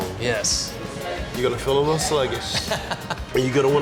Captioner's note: laughs